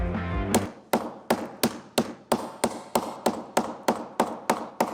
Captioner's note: exciting music; hammer pounding